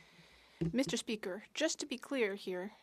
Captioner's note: speaking French